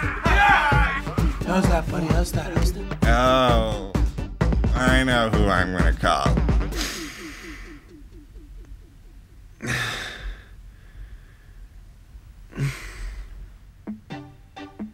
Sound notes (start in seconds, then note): 6.5 gasps; 9.5 exhales